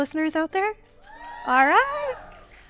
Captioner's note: audience cheering